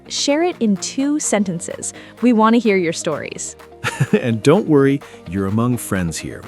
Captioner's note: laughs